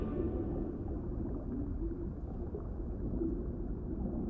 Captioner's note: water gurgling